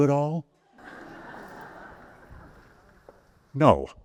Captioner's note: audience laughs